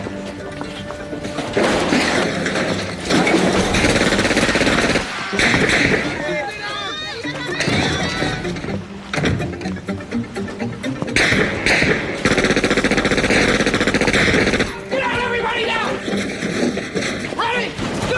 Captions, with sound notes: (lockers clatter) (gunshots fire) (gunshots fire) - Get out everybody, get out! Ready, go!